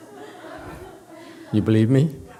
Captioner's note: laughs